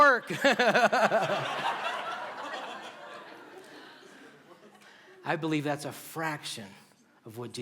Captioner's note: laughter